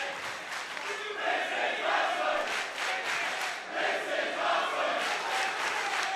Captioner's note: crowd chants "This is awesome"